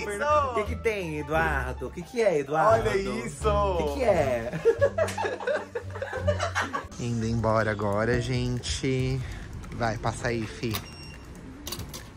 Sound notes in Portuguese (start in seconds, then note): 4.4 risos